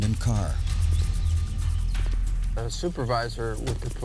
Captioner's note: birds chirping